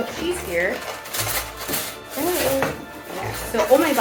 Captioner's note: rustling